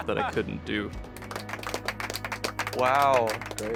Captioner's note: applause